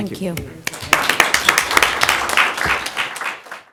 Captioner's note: applause